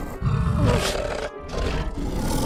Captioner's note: growling; moaning; snarls